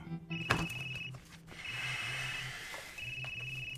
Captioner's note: phone ringing